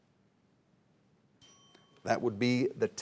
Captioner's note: bell dinging